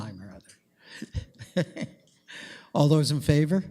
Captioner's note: chuckles